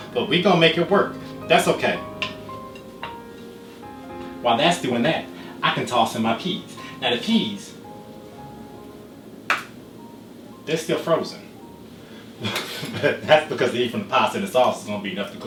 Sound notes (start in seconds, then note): 9.5 knock